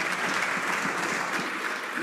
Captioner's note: some Applause